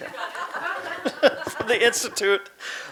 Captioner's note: audience laughing